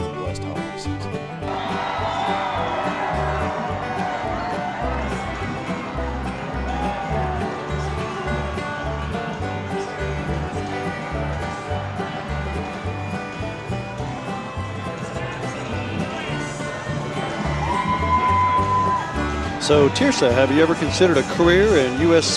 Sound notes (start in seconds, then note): 2.3 holiday music; 3.4 crowd cheering; 9.6 holiday music